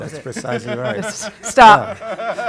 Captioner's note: laugh